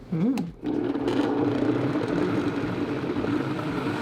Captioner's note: blender whirring